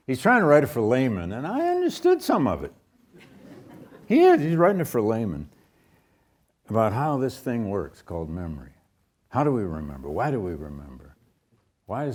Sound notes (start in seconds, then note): 3.1 audience chuckles